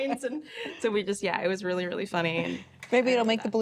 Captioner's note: laugh